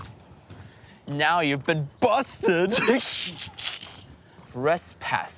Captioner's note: laughs